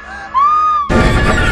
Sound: screams; suspenseful music

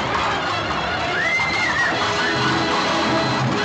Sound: women screaming

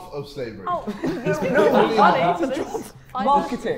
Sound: Sidemen laughing

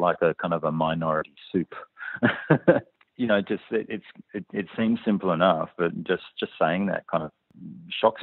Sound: laughs

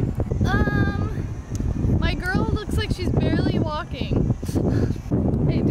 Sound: sighs

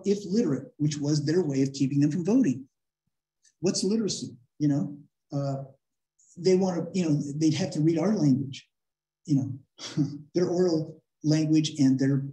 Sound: laughter

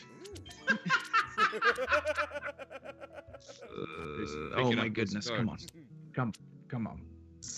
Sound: laugh

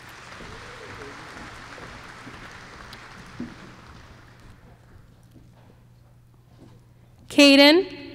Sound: applause

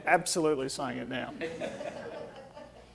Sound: audience laughing

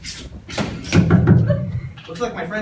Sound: knock knock knock

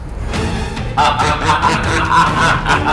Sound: laughter

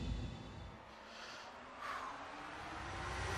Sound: breathes deeply

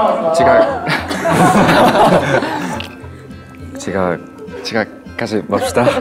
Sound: laughing

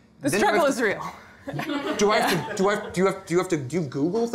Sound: audience laughter

